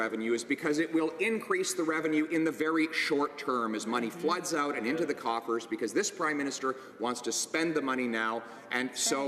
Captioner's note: some Applause